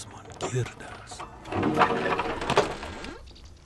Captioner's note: door creaking